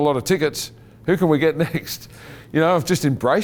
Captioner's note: chuckling